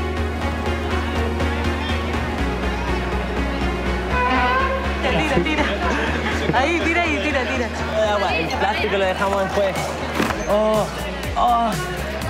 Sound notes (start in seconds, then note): 6.4 crowd chatter